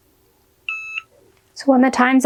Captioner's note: machine beeps